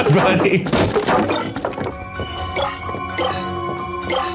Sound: shards bleeping

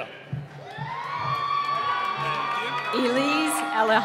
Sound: cheering

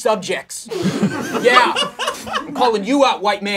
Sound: laughing

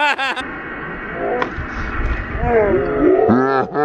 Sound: laughs; spider growls; laughs

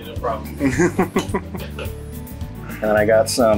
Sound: laughing

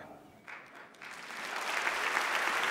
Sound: claps loudly; crowd cheering

